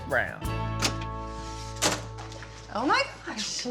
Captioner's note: door opens